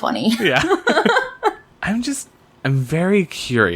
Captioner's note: laughs